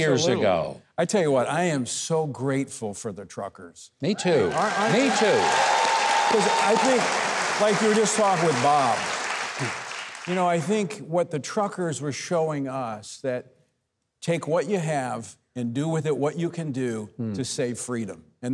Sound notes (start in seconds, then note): 4.2 audience cheering; 4.4 audience applauding